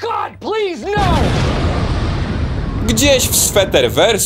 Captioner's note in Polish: boom!